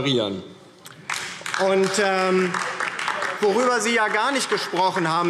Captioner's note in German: Beifall DIE LINKE